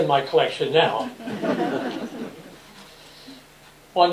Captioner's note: laughter